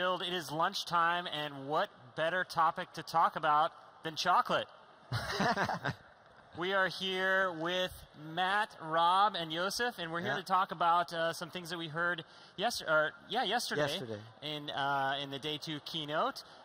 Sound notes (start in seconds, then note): 5.1 laughing